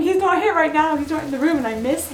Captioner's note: rain falling